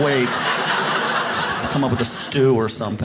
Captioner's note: audience laughs